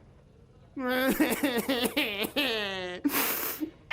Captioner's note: cried-ing